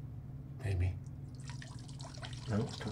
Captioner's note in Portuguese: Som de urina começa